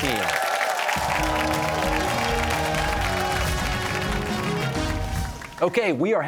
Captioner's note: cheers and applause